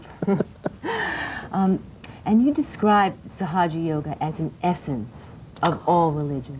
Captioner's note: laughter